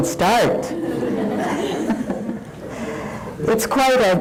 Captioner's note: laughing